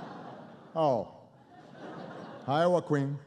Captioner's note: laughter